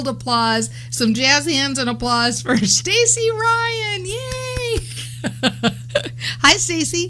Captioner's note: laughs